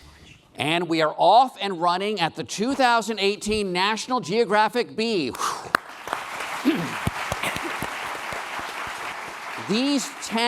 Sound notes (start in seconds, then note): 5.7 applause